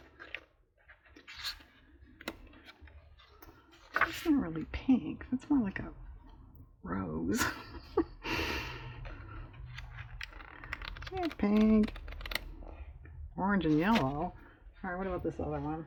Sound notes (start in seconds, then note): 7.3 laughs